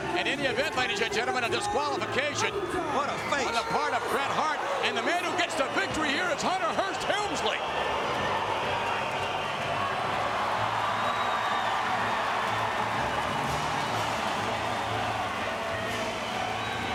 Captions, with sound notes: In any event, ladies and gentlemen, a disqualification. What a face. On the part of Bret Hart. And the man who gets to victory here is Hunter Hearst Helmsley! (crowd cheering)